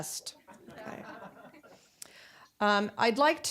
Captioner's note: audience laughing